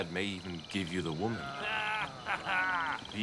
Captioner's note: laughing